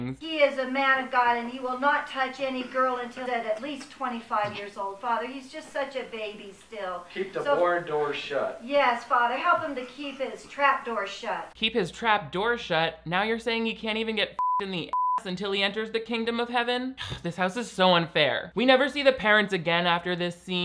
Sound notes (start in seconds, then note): 14.8 beep; 17.0 sighs